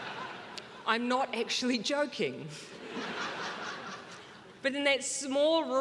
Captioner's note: crowd laughing